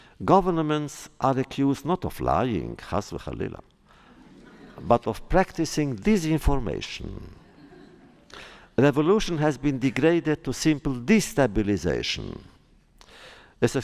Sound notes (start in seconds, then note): 3.9 laughter